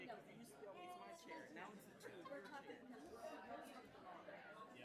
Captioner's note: attendees chattering